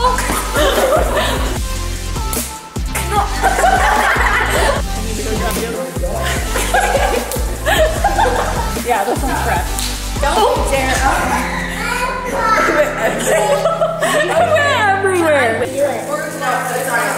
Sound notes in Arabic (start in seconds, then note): 0.2 الجميع يضحكون; 12.3 أمي تضحك